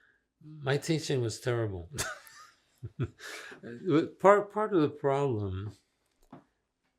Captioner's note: laughing